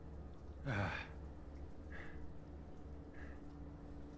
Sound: sighs

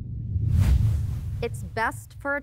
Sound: air quivers

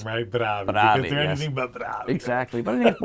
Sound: laughs

